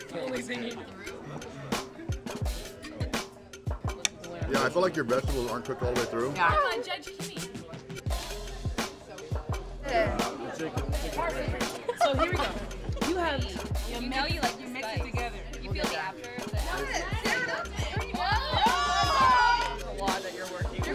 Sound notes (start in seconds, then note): 0.0 laughing; 0.2 soft chatter; 1.9 upbeat hip hop music; 9.9 loud chatter; 11.7 girl giggles; 17.2 girls cheers